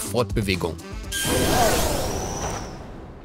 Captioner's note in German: Verzauberte Geräusche